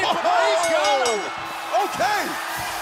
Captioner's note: bell ringing